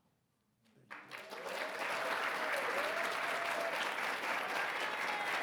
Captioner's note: audience clapping